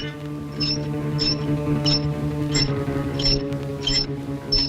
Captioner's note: squeaking